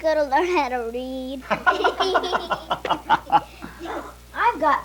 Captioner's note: everyone laughing